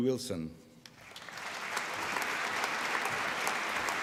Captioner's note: applause